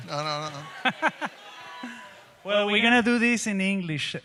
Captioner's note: speaks in Spanish; laughing